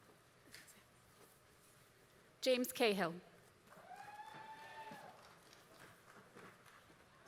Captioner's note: applause